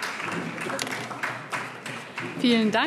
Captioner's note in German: Beifall DIE LINKE